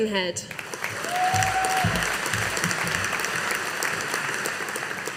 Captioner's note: audience applauding